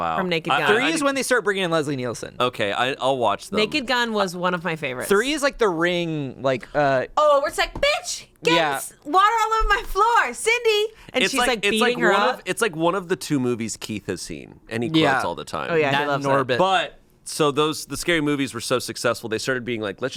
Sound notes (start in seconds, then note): none